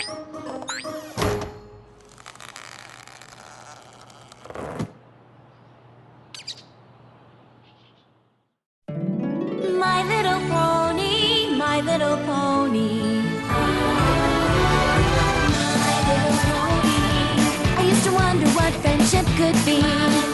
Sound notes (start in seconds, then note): 1.0 door closes; 4.5 thud